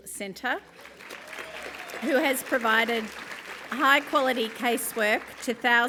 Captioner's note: applause